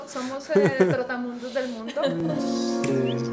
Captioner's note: laughs